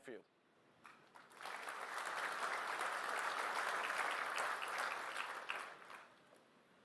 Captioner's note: applause